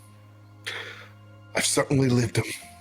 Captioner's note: breath in